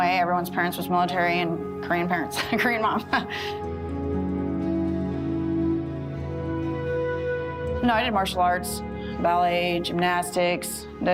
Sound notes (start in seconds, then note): 2.3 laughing; 4.2 gentle music